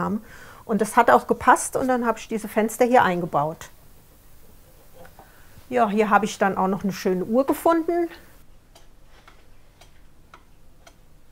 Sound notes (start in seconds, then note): 8.4 ticking